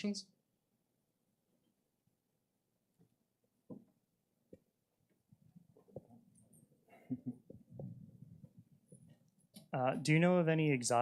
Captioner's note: pause